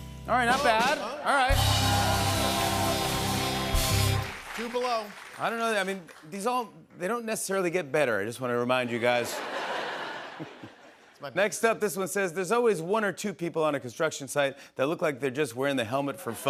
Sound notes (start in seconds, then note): 1.5 cheers and applause; 9.0 laughter